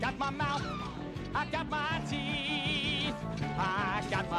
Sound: woman Shrieks

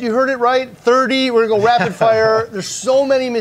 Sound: chuckles

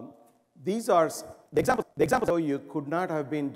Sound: recording glitch

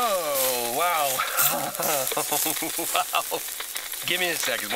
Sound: kidnapper laughs

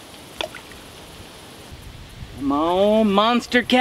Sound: plop

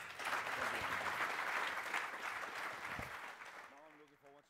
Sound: applause

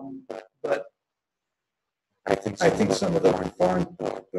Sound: microphone feedback

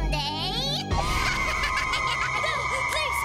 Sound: laughing

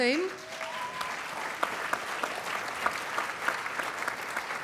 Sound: applause

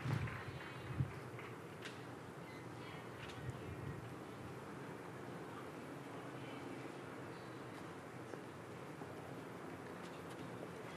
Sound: cheering and Applause

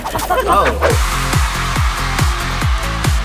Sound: crowd cheering

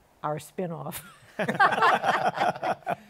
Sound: laughter

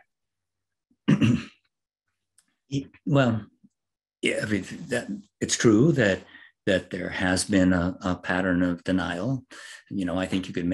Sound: cough

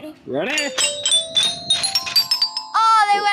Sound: chime rings; chimes ring

